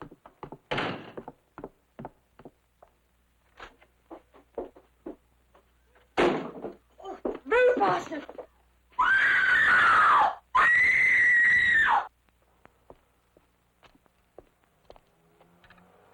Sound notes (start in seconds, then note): 0.2 door clicking; 8.9 screaming